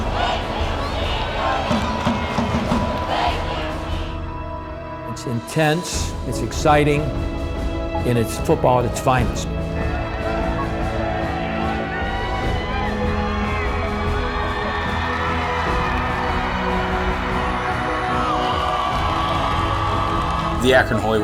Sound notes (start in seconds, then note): 0.0 drumming and cheering; 10.5 cheering; 15.0 dramatic music